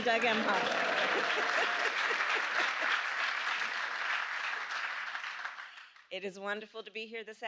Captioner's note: applause